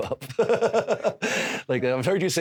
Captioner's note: Drew laughs